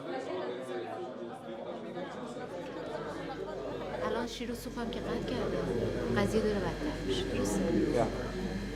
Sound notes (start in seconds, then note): 4.2 speaking in Farsi